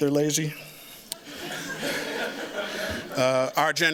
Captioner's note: laughter